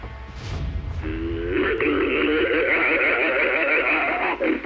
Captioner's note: aggressive growling